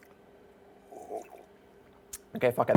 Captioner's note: drink slurping